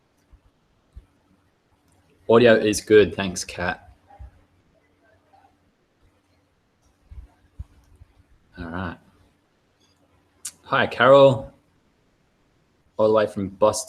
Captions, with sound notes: Audio is good, thanks, Kat. (female voice off mic) Alright. Hi, Carol, all the way from Boston.